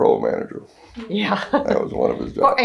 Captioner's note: laughs